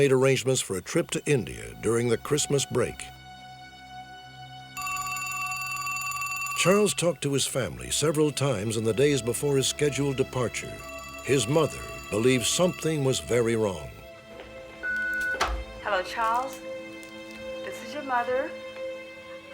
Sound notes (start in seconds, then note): 4.8 phone rings; 14.8 answering machine beeps; 15.4 on answering machine